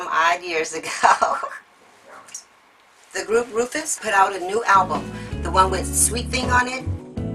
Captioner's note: laugh